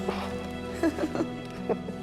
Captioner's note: both laughing